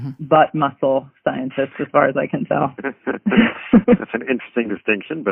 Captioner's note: laughs